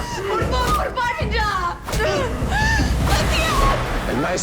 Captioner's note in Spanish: Golpes